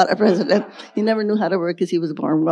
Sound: audience laughing

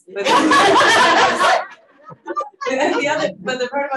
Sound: audience laughing

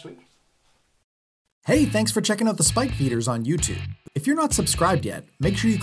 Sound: voiceover

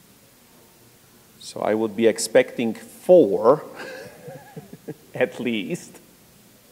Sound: laugh

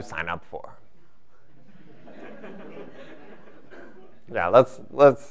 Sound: laughter

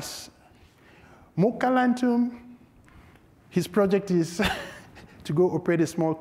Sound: chuckles

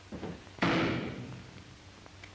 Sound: gunshot

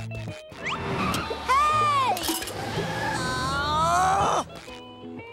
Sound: groaning

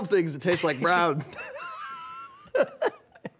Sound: laughing

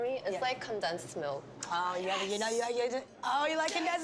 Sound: stammers

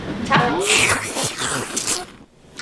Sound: the sound of a ruckus

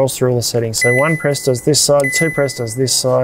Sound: fridge beeps

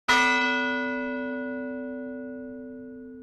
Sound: bell tolls

